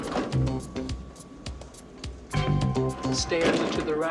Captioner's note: elevator Bell Ringing